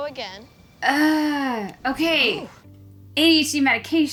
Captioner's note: sighs